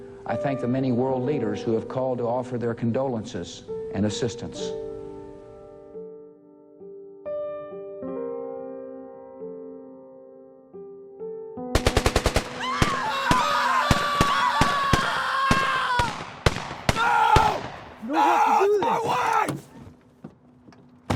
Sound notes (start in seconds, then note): 5.8 somber music; 12.1 gunfire echoing; 12.6 people screaming